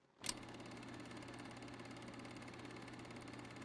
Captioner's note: projector engine